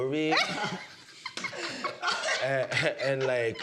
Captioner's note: all laughing